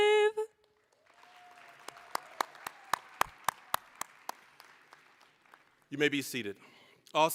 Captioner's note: applause